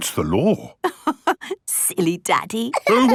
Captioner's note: laughing